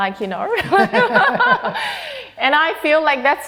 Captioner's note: both laughing